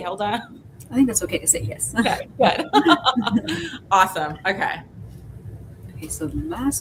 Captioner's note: laughs